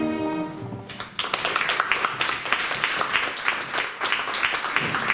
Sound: applause

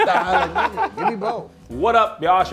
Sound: laughs

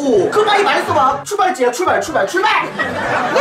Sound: suddenly enthusiastic

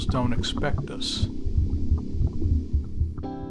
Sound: ominous sound

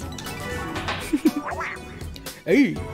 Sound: strum of harp-like instrument and hitting kendai; giggles

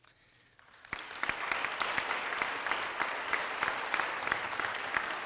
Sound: applause

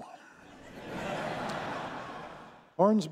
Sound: audience laughing

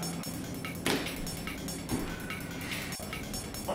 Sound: clap

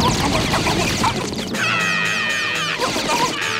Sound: screaming

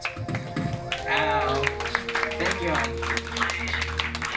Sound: cheering and clapping

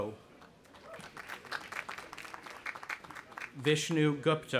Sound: audience applauding

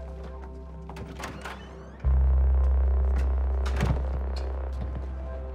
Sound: Riley groaning in anger; door opening and closing

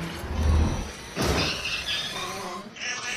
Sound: crashing and squeaking

